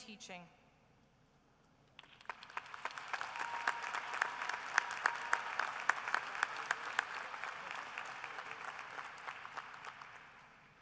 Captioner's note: applause